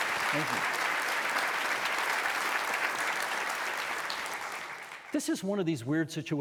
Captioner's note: audience applauding